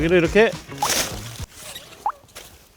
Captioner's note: snip